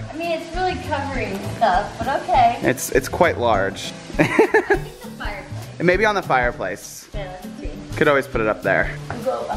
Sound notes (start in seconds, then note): 4.2 laughs